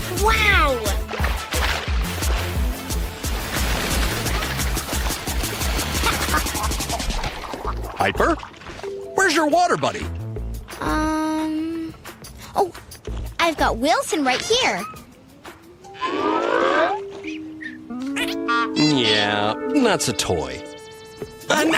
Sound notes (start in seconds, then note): 3.5 water skier laughing and splashing; 17.3 toy squeaking